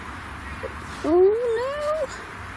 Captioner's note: wimpers